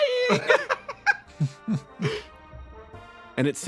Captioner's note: laughs